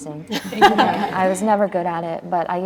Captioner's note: laughs